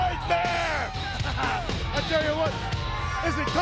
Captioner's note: chuckles